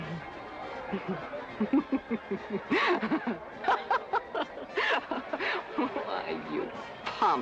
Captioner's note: laughing